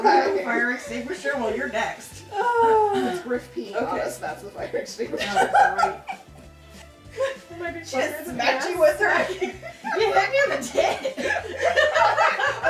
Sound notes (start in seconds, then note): 0.3 murmurs; 5.1 laughs; 7.3 indistinct chatters